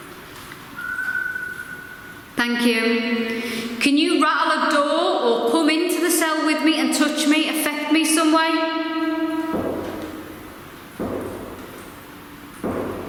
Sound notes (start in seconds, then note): 0.7 whistling; 9.5 sinister tapping